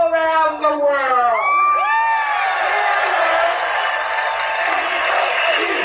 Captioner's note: crowd Cheers; crowd chants repeatedly in Italian